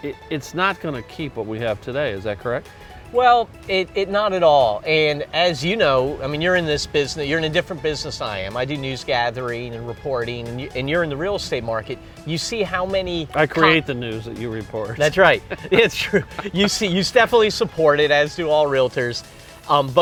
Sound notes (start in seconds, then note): 15.0 laughs